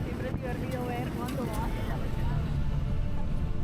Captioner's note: people chatting